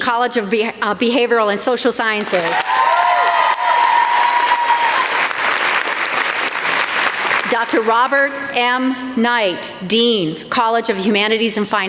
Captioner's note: applause